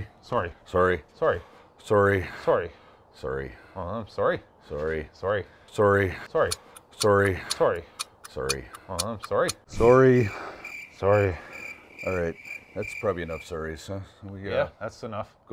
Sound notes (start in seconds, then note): 6.4 clock ticking; 9.5 crickets chirping